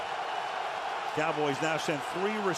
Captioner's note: crowd cheering